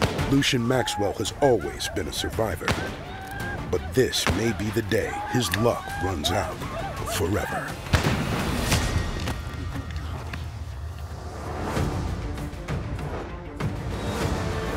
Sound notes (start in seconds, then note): 7.9 gunshot